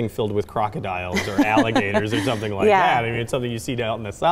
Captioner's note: laughing